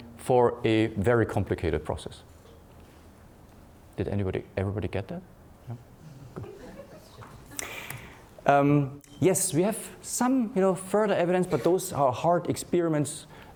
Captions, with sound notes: for a very complicated process. Did everybody get that? Yeah, good. (laughing) Yes, we have some further evidence, but those are hard experiments,